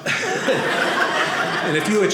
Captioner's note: audience laughing